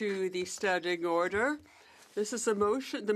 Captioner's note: speaking French